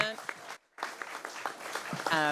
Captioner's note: applause